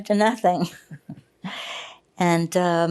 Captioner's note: laughing